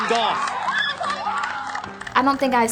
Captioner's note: women cheering